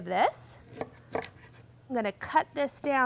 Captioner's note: knife clicking